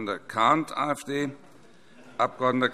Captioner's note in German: Heiterkeit DIE LINKE